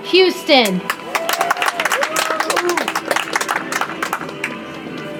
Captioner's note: audience applauds